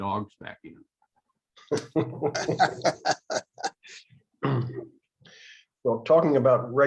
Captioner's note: laughter